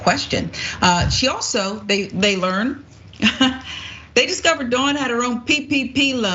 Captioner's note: laugh